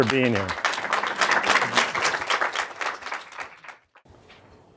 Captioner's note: audience applauds